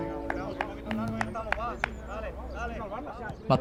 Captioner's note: coaches clapping and chattering